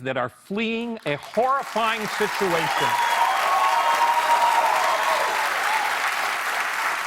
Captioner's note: cheers and applause